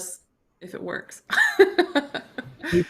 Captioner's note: chuckles